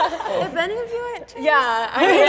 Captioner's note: crowd laughs; crowd talking